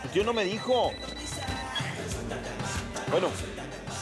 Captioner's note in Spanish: Suena el celular